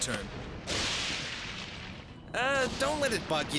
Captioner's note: lightning crashes